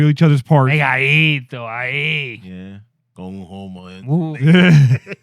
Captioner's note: speaking In Foreign Language